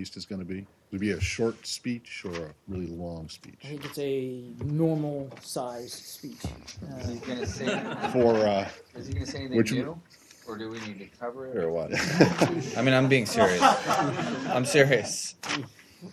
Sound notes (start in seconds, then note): 7.0 laughter; 15.3 laughter